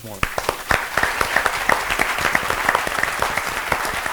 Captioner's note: applause